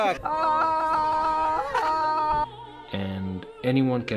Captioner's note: laughing; shouting